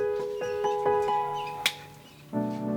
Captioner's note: hands slapping